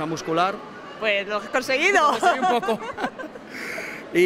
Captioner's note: laughs